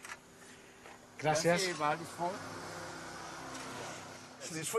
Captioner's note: man speaks local language